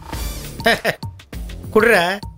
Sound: chuckles

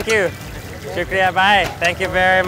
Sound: speaks in foreign language

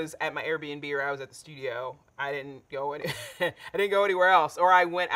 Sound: chuckles

